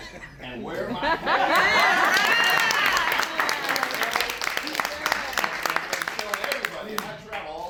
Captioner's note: applause